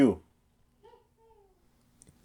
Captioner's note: distance laugh